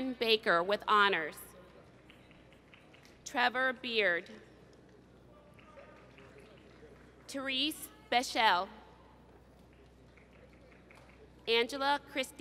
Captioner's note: applause